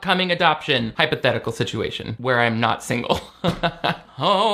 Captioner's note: laughs